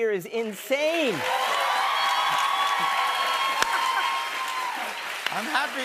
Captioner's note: cheers and applause